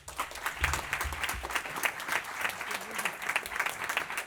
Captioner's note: applause